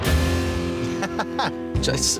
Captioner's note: laughing